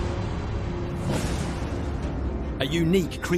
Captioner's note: meteor booms